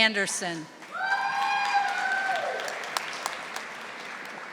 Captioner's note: audience applauding